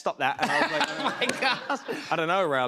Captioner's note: laughter